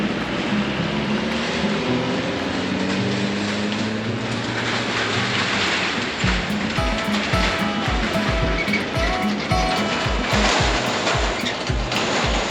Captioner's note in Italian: Applauso